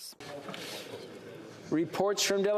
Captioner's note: speaking French